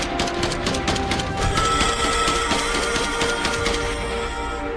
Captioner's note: gun blasting; beast shrieks